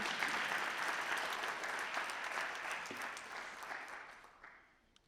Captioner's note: audience applauding